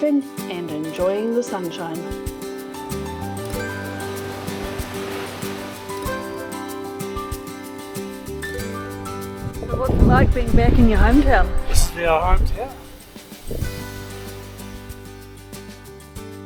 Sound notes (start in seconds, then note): 2.6 waves crashing